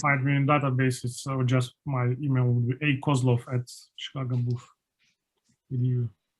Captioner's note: faintly speaking